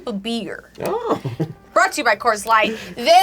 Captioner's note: laughs